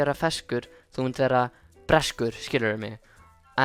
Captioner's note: rhymes in Icelandic